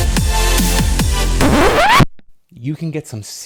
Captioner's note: record scratch noise